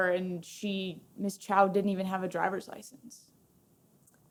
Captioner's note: none